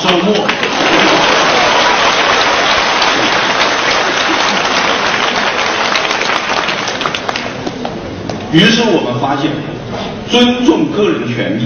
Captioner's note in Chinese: 众人鼓掌声